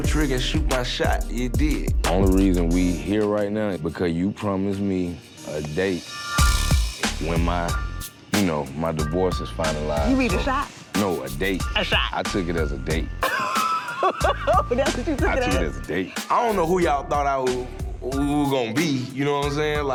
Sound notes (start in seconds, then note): 6.5 tense hip-hop music; 13.2 laughs; 16.1 tense hip-hop music